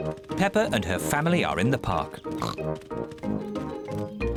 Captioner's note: snorts